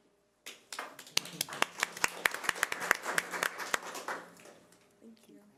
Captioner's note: audience applause